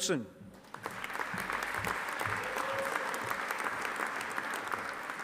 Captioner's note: audience applauding